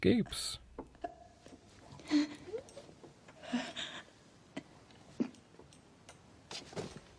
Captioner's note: Sara quietly struggling and breathing